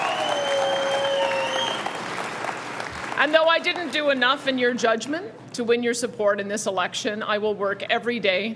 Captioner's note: cheering